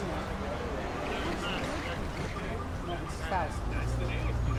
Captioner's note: background chattering